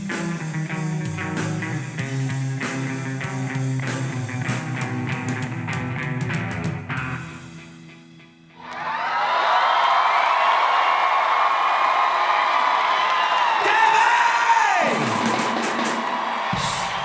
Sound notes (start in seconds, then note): 6.5 cheering